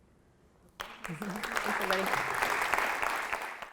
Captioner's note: applauding